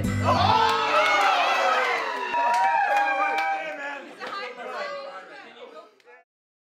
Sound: cheering

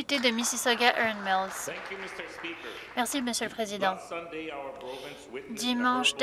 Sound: applause

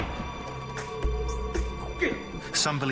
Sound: grunts

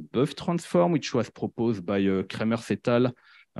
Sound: speaking in French

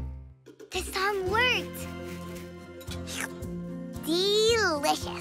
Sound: slurp

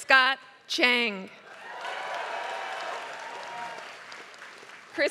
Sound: applause

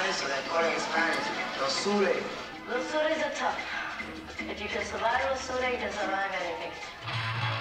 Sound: speaking spanish; spanish

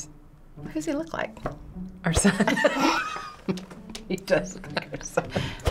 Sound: laughing

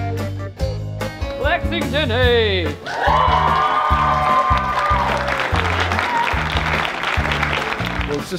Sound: crowd cheering

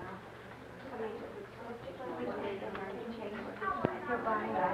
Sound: chatter

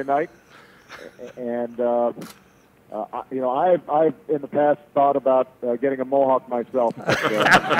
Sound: laughter

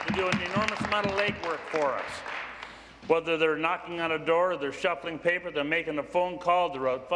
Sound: some Applause

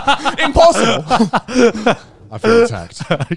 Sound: all laugh

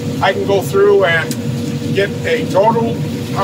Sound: none

